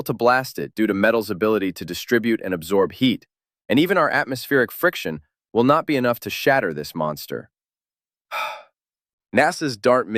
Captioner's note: exhales